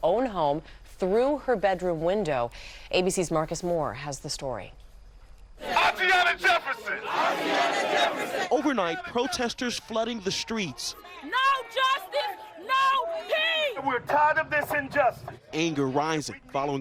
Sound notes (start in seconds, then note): 7.6 crowd chanting